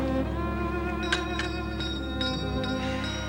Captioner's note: ringing bell